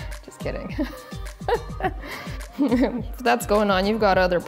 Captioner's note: laughing